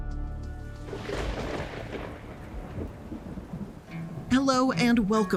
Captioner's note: thunder rumbles